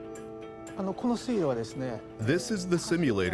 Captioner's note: speaking Japanese